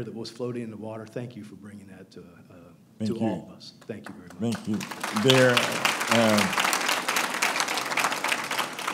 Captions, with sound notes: that was floating in the water, thank you for bringing that to all of us. Thank you very much. (applauding)